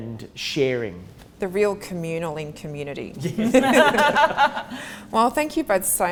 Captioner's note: all laugh